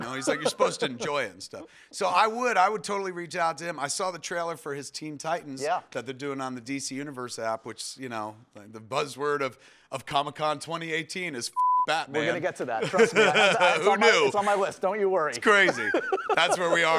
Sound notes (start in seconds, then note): 15.4 laughs